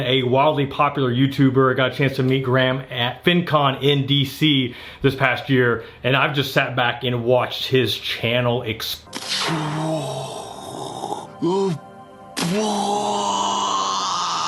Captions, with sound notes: a wildly popular YouTuber, I got a chance to meet Graham at FinCon in D.C. this past year and I've just sat back and watched his channel (imitates explosion)